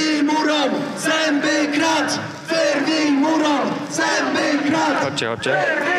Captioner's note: chanting